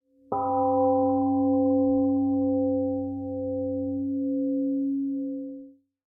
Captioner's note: temple gong rings and fades